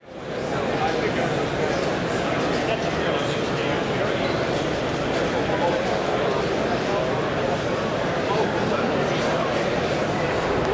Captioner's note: the buzz of a convention floor